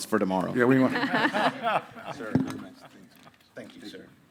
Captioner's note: panelists laughing